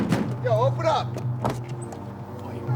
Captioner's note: knocks on door